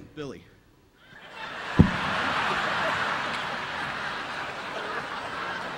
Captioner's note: audience laughing